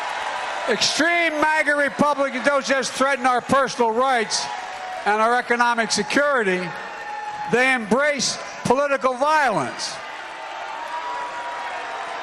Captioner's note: applause